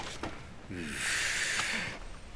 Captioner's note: sighs